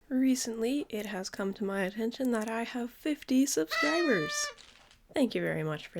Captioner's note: confetti noise